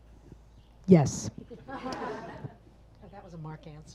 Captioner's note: audience laughs